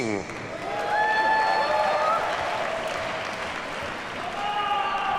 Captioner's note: audience cheers and applauds